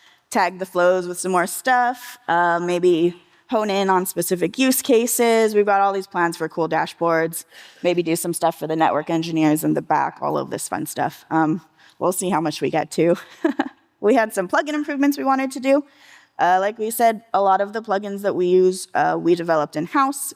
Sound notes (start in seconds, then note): 13.3 chuckling